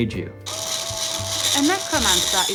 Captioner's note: pencil sharpener grinding